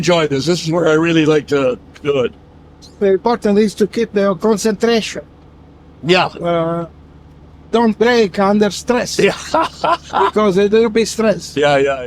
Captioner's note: Ron laughs